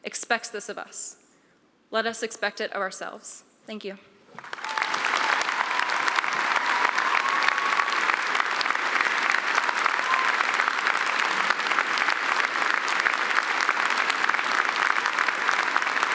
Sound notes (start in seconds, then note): 4.6 applause; 4.6 cheering